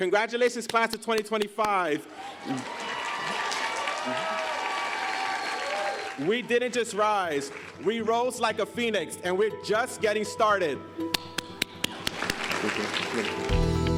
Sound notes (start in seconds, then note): 2.1 cheers and applause; 11.8 applause